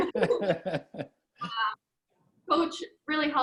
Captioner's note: laughs